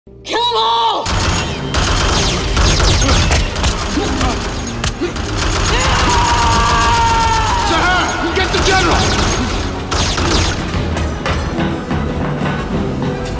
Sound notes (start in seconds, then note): 8.4 gun cocks